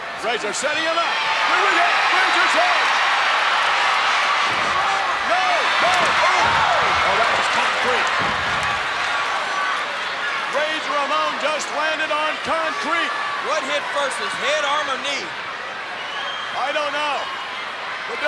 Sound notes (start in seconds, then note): 3.3 crowd cheering; 8.9 crowd chattering